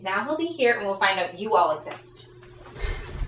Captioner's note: audience laughing